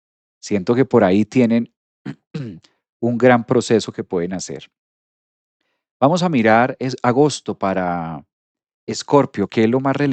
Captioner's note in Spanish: carraspeo